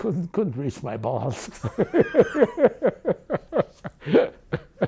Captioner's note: laughing